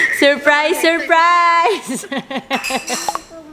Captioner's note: laugh